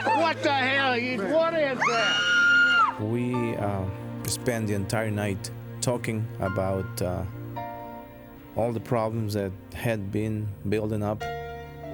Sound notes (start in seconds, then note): 1.8 screaming